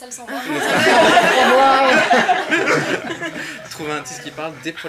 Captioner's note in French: rires